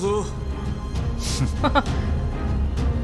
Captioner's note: chuckles